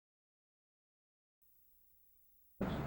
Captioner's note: silence